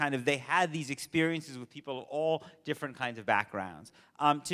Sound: none

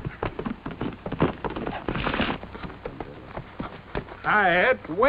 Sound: horse galloping

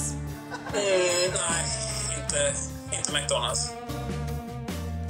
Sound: speaking Swedish

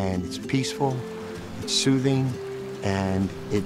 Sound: stream flowing

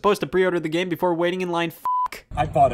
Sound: beep

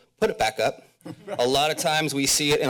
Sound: laughter

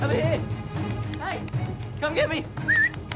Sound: whistles

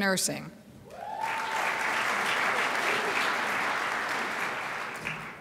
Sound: crowd applauds

